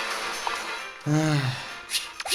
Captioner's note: sigh